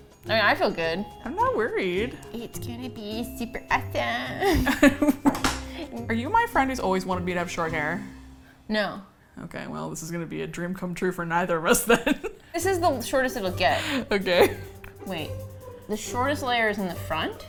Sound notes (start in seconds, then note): 4.4 both laugh; 12.1 laughs